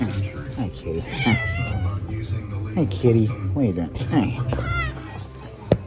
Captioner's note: Caprice meows